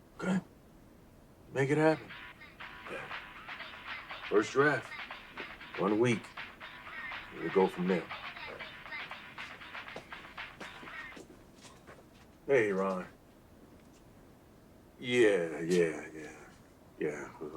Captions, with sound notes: - Okay. Make it happen, yeah. First draft, one week. Then we go from there. - All right. (Ringtone sings) (Footsteps shuffle) - Hey, Ron. Yeah, yeah, yeah, yeah. (Laughs)